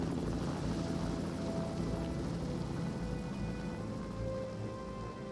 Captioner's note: helicopter whirring